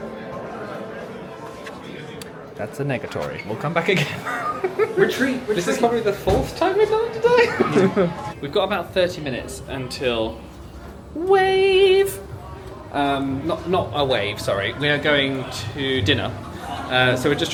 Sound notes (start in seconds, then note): 0.3 crowd chattering; 4.0 laughing